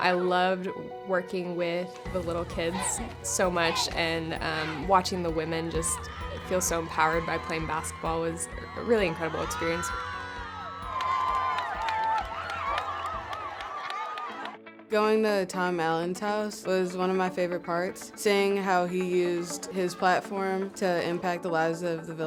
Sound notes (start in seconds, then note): 10.1 cheering